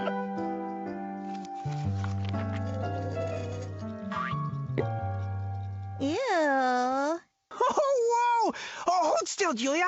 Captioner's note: laughter